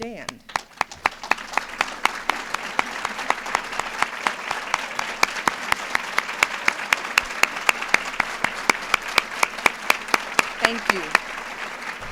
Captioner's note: applause